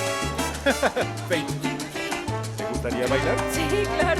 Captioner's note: Bruno ríe